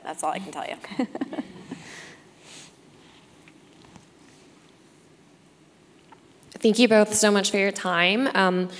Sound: laugh

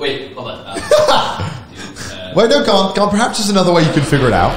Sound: laughs

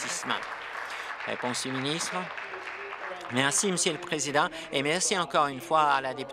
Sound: applause

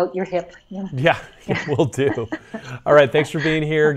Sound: both laugh

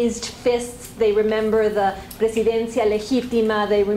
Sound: spanish

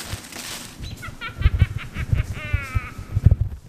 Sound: witch cackles

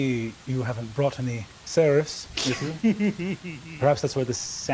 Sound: Sam giggling

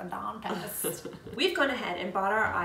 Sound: laughing

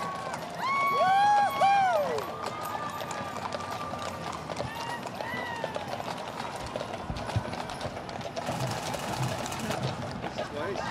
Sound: cheering and Applause

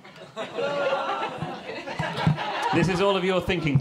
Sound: crowd chuckling

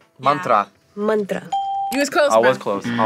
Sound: bell rings

